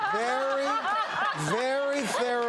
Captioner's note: laughing